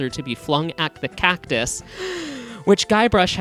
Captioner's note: deep breath